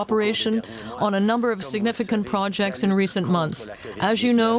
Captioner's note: speaking French